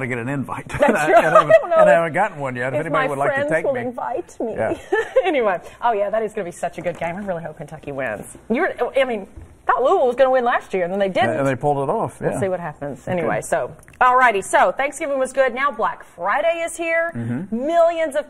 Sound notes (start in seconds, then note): 4.6 laughter